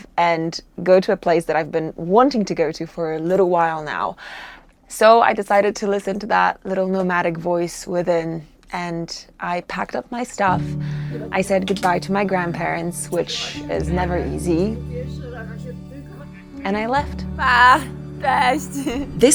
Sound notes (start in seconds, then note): 10.2 soft melodic music; 15.0 people chattering; 17.6 speaker speaking in foreign language